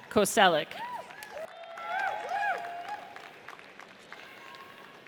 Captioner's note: audience cheers